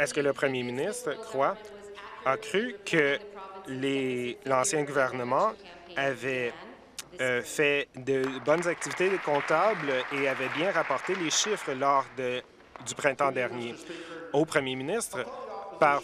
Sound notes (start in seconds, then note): 1.5 applause